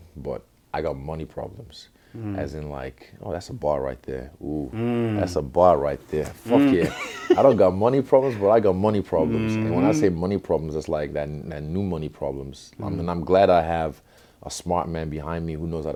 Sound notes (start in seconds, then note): 6.5 laughs